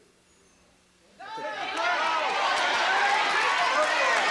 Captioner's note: cheering and applause